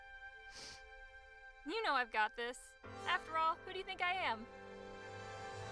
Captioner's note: sniffle